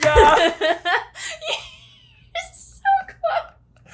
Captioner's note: laughing